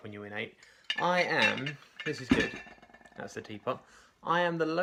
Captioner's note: clinking sound